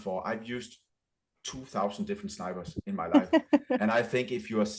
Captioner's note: laughter